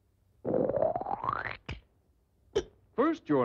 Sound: gulp

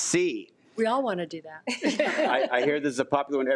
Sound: laughs

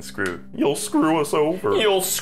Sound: goofy voice; goofier voice

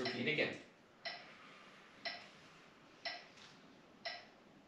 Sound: metronome ticking

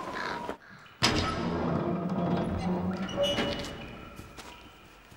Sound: door creaking

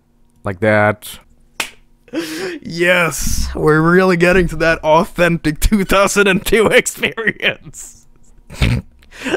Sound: claps; laughs as he's talking

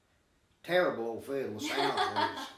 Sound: laughing

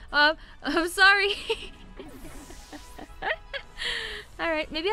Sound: laughing

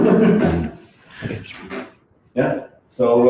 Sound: laughs

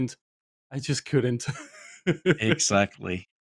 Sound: laughs

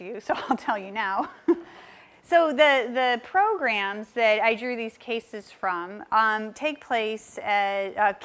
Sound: laugh

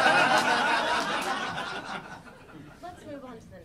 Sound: audience laughing

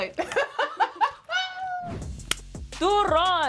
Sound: laughing

